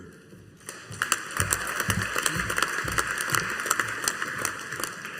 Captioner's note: audience applauding